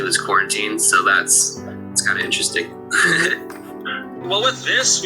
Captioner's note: laughs